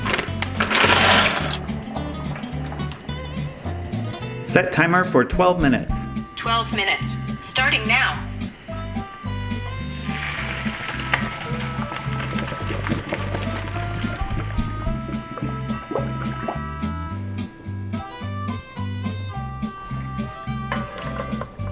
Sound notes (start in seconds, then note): 0.2 chill music; 10.5 water draining; 13.2 chill music continues